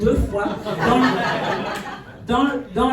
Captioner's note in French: rires